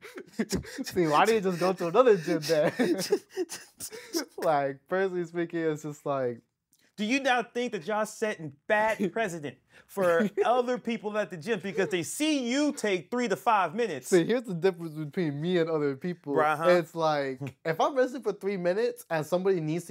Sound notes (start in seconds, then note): 0.0 laughs